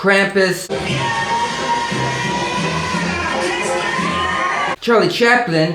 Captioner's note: Krampus screaming